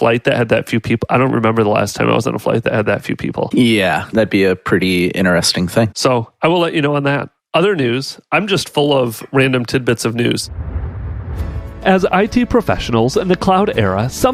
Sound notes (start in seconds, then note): 10.4 air whooshing